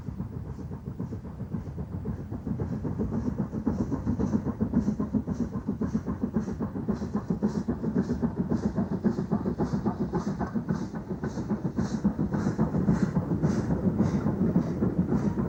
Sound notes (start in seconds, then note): 6.8 train passing